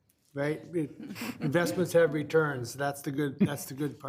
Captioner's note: people chuckling